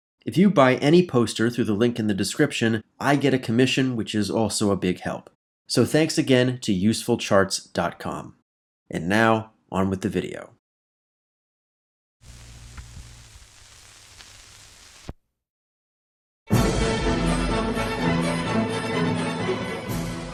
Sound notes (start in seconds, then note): 12.2 needle drop